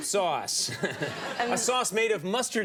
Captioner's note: laughter